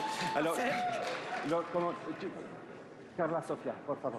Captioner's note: speaking french